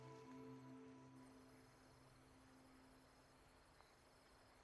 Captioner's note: insects chirping